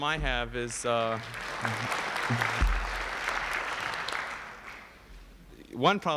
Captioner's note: applause